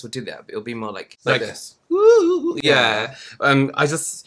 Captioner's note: spooky Ghost Noise